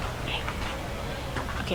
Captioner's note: none